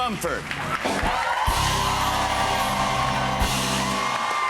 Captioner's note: cheers and applause